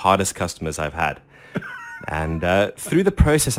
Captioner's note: laughs